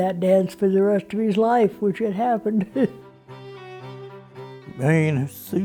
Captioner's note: chuckles